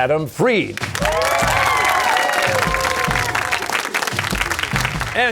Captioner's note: cheers and applause